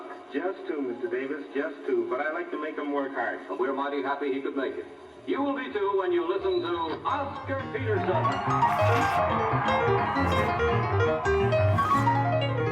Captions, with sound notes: But I like to make them work hard. - And we're mighty happy he could make it. You will be too when you listen to... Oscar Peterson! (crowd cheering) (upbeat piano music)